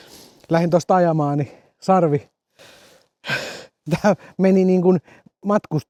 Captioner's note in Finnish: naurua